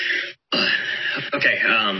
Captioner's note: clears throat